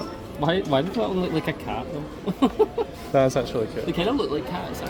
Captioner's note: laughs